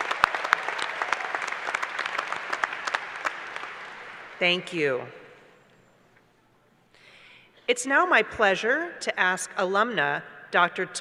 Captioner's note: applause